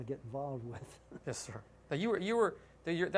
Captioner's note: laughter